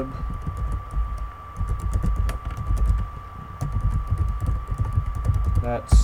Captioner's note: typing